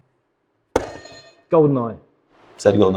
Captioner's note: buzzer sounds